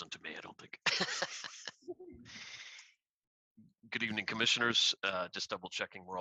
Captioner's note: laughter